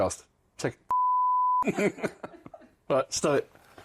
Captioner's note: laughter